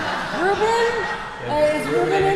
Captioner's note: laughter; chuckling